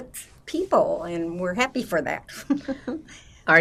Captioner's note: laughing